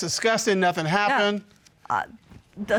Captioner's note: stammers